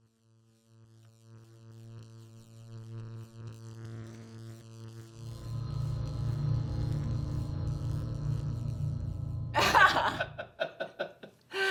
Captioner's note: electrical sounds